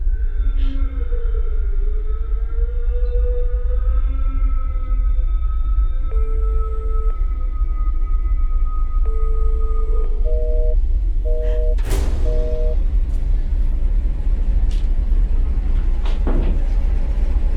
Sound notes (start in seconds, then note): 6.4 phone ringing; 11.2 tense horror music; 11.2 busy signal beeping